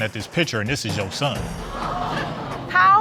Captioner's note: audience exclaiming